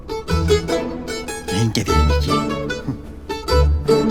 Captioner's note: mocking